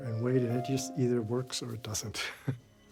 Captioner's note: chuckles